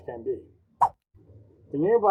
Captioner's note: swipe Sound